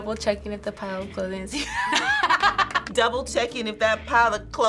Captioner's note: both laugh